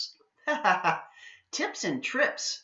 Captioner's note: laughs